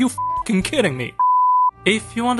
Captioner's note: beep